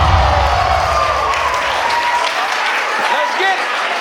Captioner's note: spectators applauding